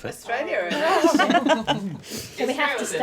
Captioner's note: laughing